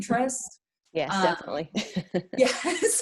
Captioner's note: chuckles